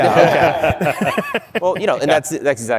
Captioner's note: laughter